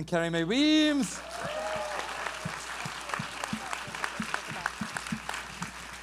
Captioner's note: audience applauds and cheers